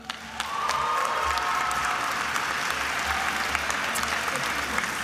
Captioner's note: attendees applauding and cheering